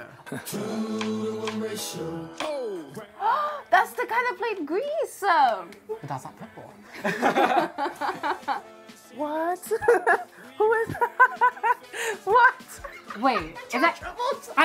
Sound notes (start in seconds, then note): 3.0 gasps; 7.0 both laugh; 9.6 laughs